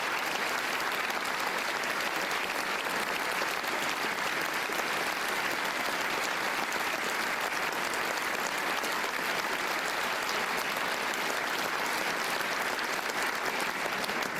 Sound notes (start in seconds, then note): 5.1 applause